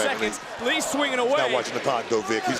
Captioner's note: crowd counts down